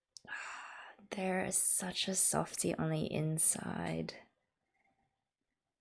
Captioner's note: sigh